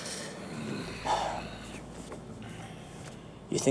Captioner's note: sigh